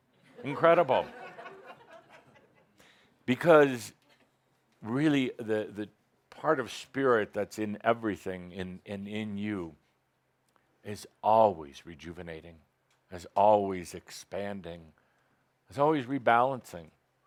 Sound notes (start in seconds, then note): 0.2 laughter